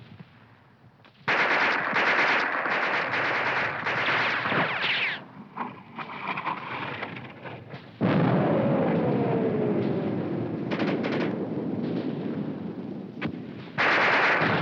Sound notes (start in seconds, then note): 1.2 guns firing; 8.3 bomb exploding